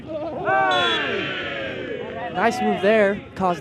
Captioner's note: whistle blows